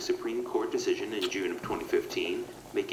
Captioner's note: the sound of kissing